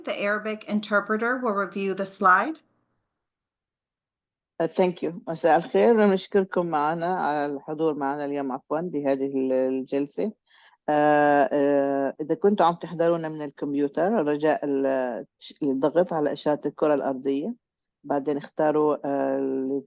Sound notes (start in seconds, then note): 5.8 arabic Interpreter speaking Arabic